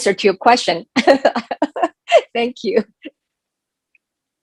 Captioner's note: laughter